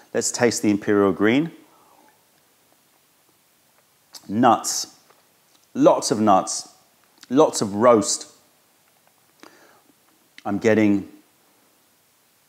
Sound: sips tea

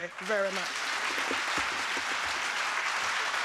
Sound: applause

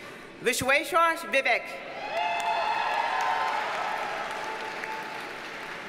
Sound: audience cheers and applauds

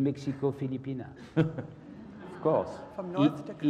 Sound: laugh

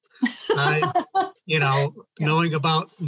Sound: laughing

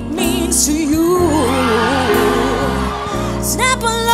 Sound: cheers

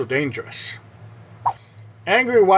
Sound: swipe Sound

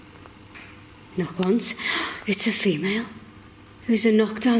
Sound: gasps

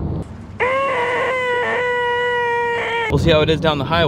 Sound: screeching

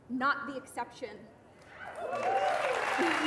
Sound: applause

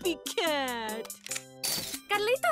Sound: camera shutter

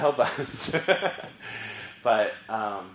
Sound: laugh

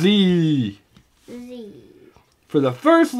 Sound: voiceover

